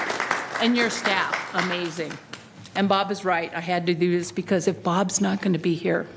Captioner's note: applause